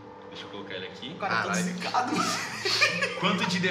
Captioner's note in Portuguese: Risada